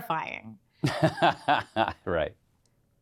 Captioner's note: laughs